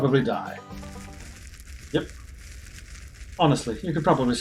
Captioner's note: sizzling